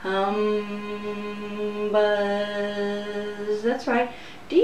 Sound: humming sounds; buzzing sounds

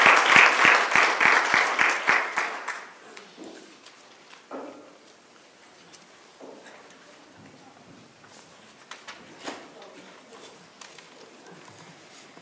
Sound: applause

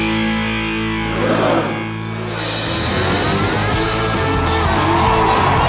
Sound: crowd cheering

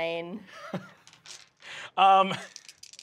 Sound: chuckles

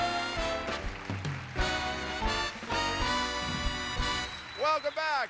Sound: applause

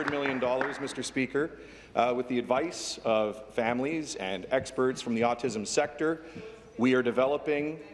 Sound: applause

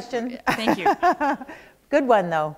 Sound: chuckle

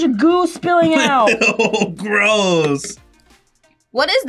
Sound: laughs

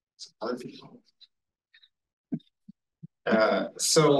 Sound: audio distorting

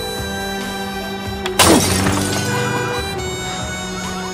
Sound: glass breaking

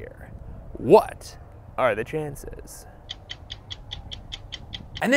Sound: stopwatch ticking

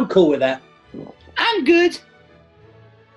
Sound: high pitched

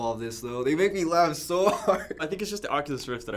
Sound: laughing

